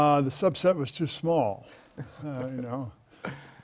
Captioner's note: laugh